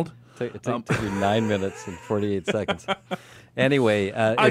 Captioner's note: laughs